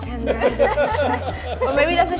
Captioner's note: laughter